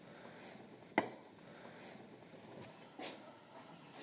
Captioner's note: loud whirring